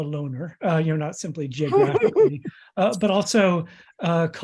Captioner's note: laughs